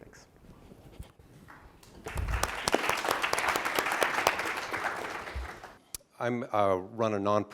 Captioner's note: applause